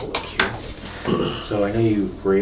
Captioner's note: light coughing